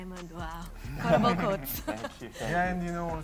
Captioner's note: chuckles